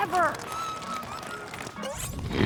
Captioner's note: squeals; dragon snoring loudly